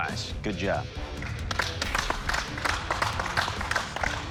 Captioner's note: applause